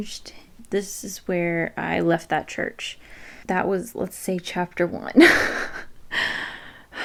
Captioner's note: laughs a little